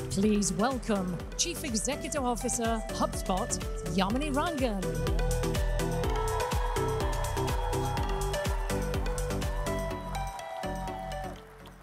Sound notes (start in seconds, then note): 5.7 gentle upbeat music; 6.9 audience cheers